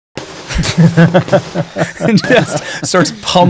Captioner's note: hammer thudding